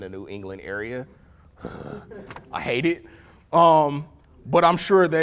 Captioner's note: groans